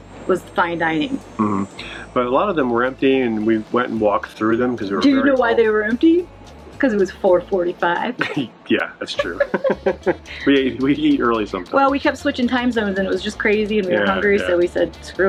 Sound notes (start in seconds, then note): 9.1 laughing; 9.1 laughs